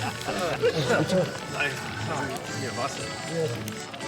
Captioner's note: laughter; non-english speech